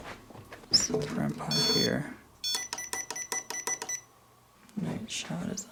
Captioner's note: beeping